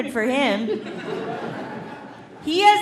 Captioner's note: audience laughing